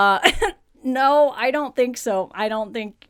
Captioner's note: laughs